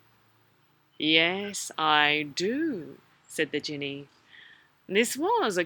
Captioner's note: Djinni voice